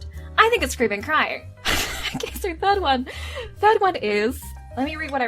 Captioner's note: laughs